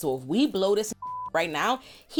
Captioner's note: beep